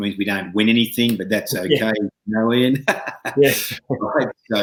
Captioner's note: chuckling